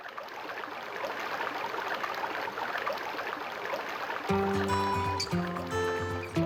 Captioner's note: water flapping; water flowing; upbeat music